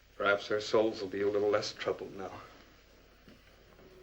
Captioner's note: none